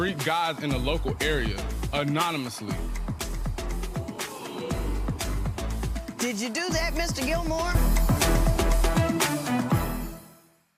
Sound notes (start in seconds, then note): 3.8 audience murmurs; 7.9 upbeat horn music